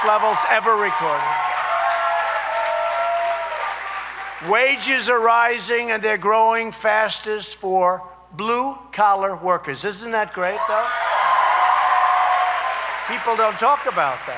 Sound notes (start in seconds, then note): 3.4 applause; 10.8 applause